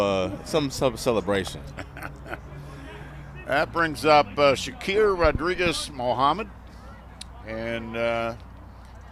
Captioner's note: laughter